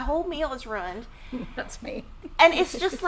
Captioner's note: laughing